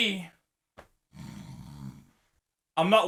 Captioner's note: snores